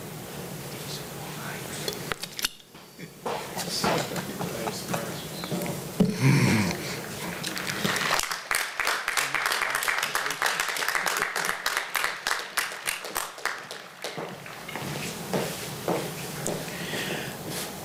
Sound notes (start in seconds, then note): 7.1 applause